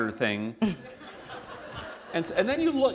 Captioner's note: laughter